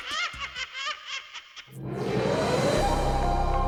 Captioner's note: laughing